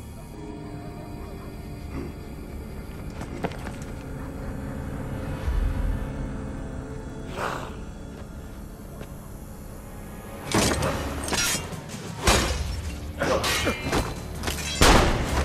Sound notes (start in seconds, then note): 7.0 wolf howl; 10.5 fighting sounds